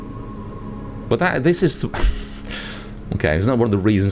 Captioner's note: laughs